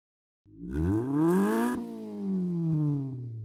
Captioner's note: engine revs